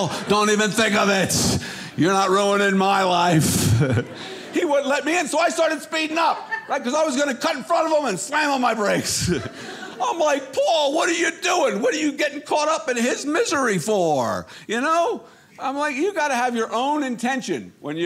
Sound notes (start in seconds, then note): 3.2 audience laughing; 8.8 audience laughing